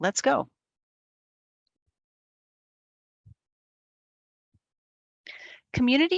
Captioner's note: silence